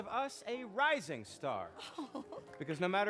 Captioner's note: chuckles